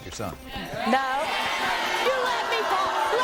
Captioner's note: audience booing